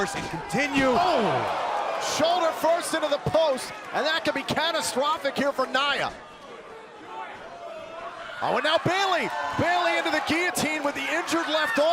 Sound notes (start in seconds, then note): 2.7 crowd cheering; 7.3 crowd cheering